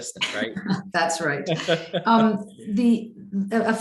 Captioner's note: laughs